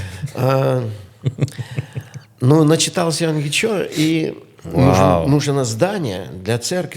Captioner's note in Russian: смех